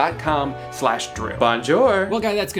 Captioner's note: speaking in foreign language